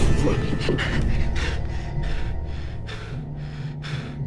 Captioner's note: panting